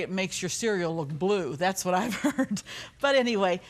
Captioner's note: laughs